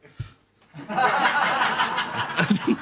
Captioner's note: laughter